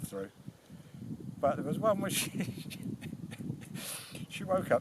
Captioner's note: laughs